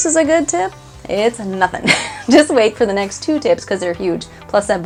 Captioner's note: laughing